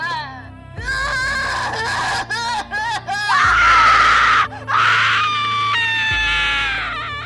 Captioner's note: screams and sounds of battle